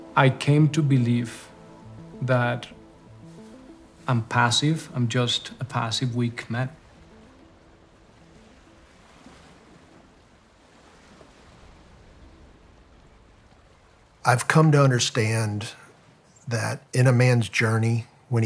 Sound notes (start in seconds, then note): 7.0 waves lightly crashing